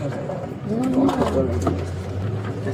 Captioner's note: speaking in foreign language